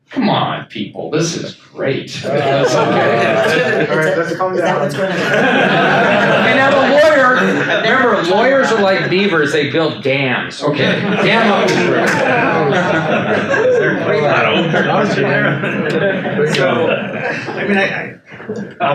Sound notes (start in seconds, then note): 2.2 attendees laugh; 4.6 panelists laugh; 10.7 attendees laugh